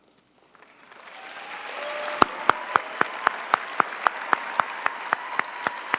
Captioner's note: audience applauding